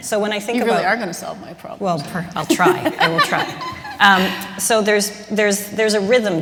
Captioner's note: laughter